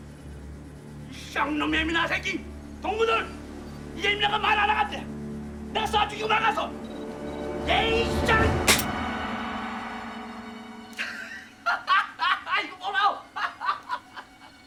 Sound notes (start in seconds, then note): 0.6 Korean; 8.6 hammer Clicks; 11.6 laughs, Speaking Korean